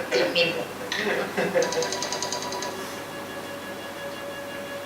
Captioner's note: sewing machine hums